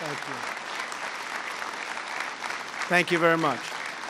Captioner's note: applause